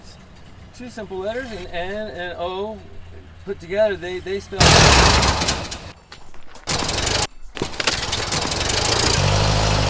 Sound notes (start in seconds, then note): 4.6 firing